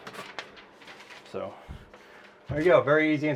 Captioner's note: paper crinkles